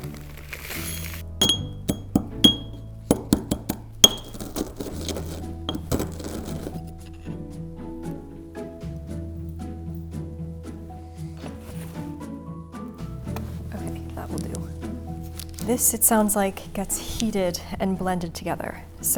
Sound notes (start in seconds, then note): 0.1 experimentation music; 1.4 pestle banging